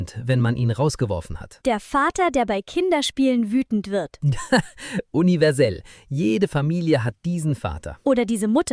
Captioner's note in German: gelächter